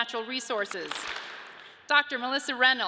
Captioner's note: audience claps